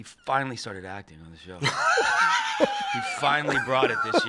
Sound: laughs

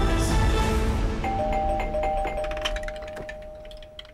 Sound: door bell ringing

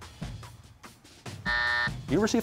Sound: buzzer

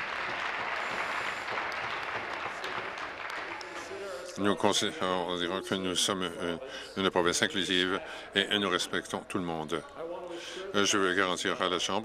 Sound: applause

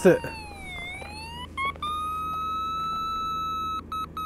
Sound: machine squealing

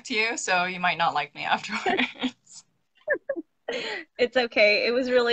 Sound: laughing

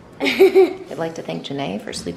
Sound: laughs

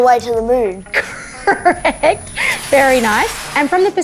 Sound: laughing

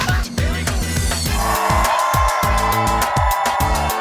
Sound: cheers and applause

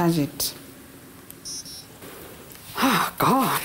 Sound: sound of machine shutting down

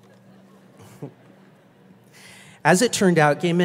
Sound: laughs

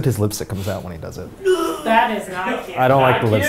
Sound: man off camera gagging

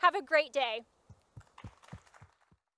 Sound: crowd clapping

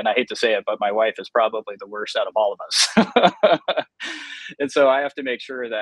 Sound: laughs

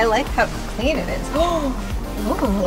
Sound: gasps

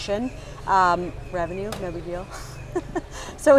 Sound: laugh

